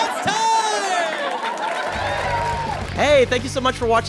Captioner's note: audience cheers and applauds